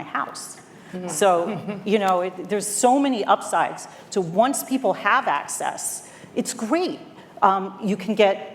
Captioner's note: laughter